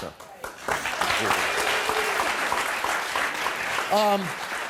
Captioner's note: audience clapping